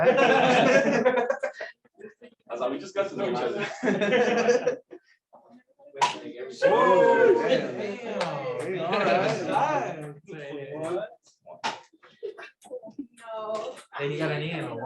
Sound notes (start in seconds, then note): 0.0 laughter; 6.6 cheers